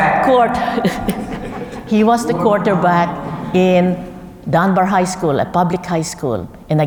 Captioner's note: laugh